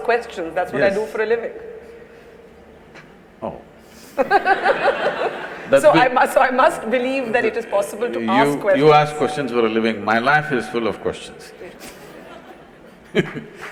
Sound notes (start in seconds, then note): 4.1 laughter; 11.8 laughter/Applause